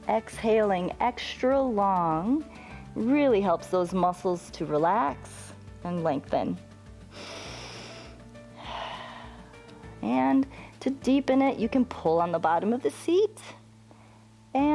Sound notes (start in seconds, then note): 7.0 inhales and exhales